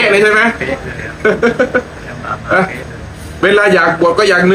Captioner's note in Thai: เสียงหัวเราะ